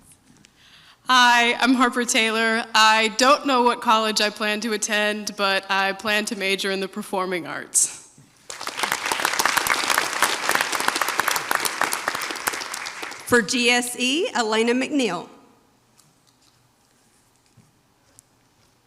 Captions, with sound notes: - Hi, I'm Harper Taylor. I don't know what college I plan to attend, but I plan to major in the performing arts. (audience applauds) - For GSE, Elena McNeil.